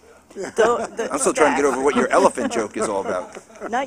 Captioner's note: laughter